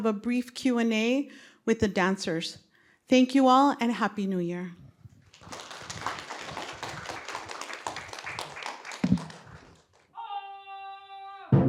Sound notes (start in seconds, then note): 5.2 applause; 11.4 rhythmic drumming and cymbals